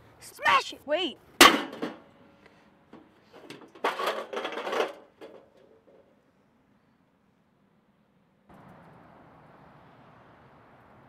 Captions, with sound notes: - Smash it! - Wait. (metal clanking)